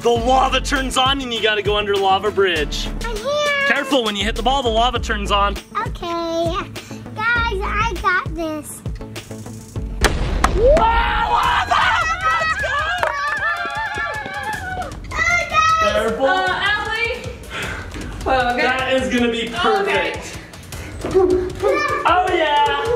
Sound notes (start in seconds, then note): 10.0 bomb exploding; 10.6 crowd screaming